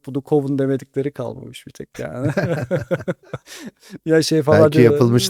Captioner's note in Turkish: kahkaha